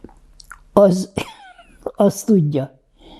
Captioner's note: laughing